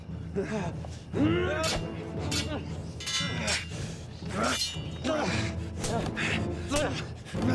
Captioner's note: fighters grunting; swords clanging; dramatic music continues